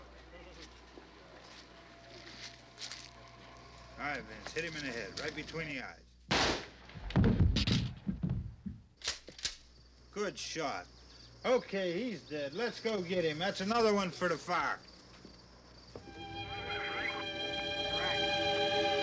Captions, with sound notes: - Alright, Vince, hit him in the head, right between the eyes. (gun firing) Good shot. Okay, he's dead. Let's go get him. That's another one for the fire. (gentle instrumental music)